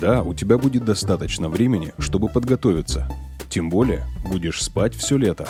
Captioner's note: continuestospeakrussian